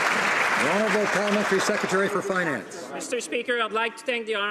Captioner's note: some Applause